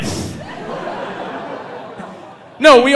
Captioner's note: audience laughing